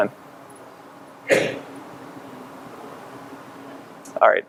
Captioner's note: coughing